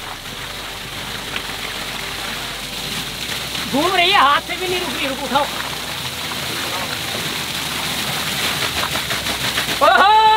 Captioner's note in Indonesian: Suara air; Teriakan